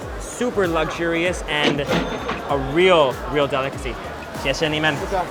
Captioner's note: register chiming